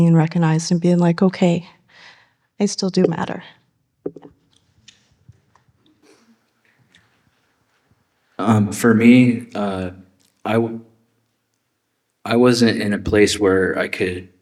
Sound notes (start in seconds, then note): 3.4 silence